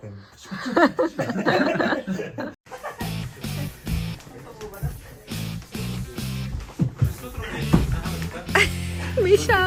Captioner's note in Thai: เสียงหัวเราะ